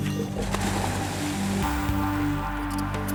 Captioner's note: water splashes; suspenseful music continues